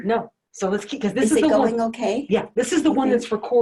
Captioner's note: overlapping chatter